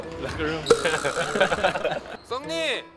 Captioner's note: just laughing